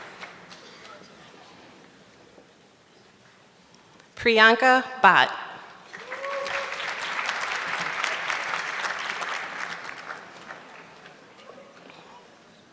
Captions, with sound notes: Prianca Bot. (audience clapping)